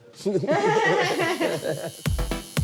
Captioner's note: laughter